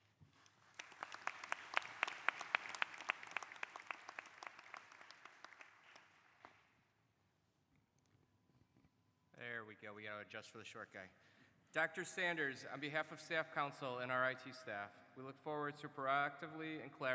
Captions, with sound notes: congratulations on becoming the 11th president of the Rochester Institute of Technology. [ Applause ] >> There we go, adjust for the